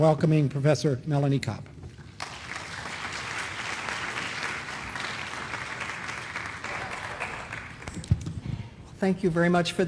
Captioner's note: applause